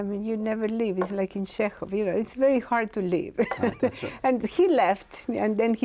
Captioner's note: laughs